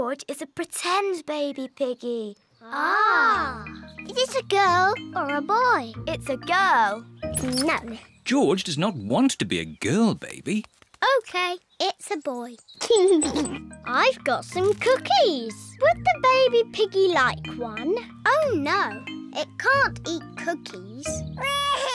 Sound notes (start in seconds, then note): 12.8 giggles